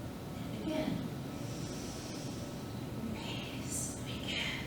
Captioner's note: inhales